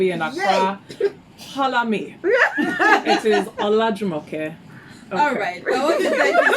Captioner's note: laughs; laughs